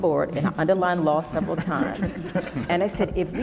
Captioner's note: laughing